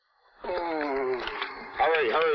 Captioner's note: man groans